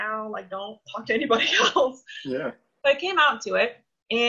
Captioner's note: laughs